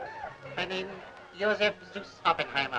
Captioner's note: laughs